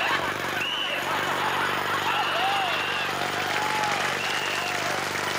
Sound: whistling; jackhammering

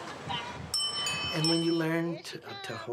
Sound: children talking; bicycle bell ringing

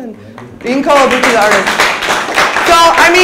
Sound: audience applauds

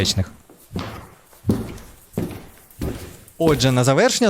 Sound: footsteps sound

